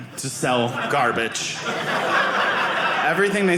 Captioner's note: audience laughing